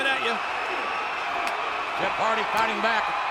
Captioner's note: audience cheering